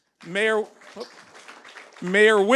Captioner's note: audience applauds